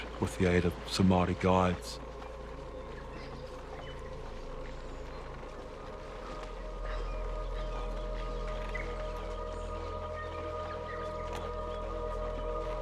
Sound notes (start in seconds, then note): 5.5 tense music; 9.0 birds singing